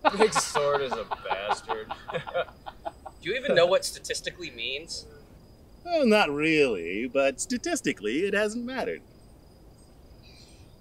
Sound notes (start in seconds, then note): 2.0 both Honeywind and Magnar laugh